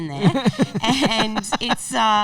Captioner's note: laughing